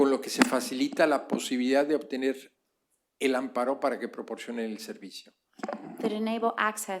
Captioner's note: speaking spanish